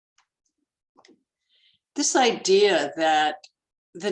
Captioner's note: none